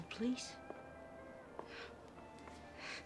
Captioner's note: scoffs